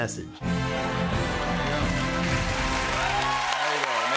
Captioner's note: cheering and applause